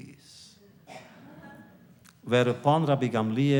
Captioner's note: laughter